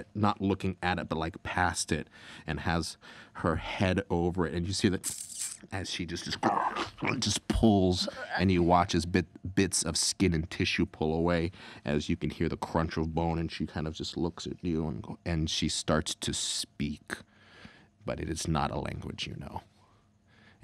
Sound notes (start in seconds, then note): 6.3 squelching